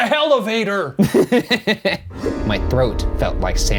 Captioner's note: laughing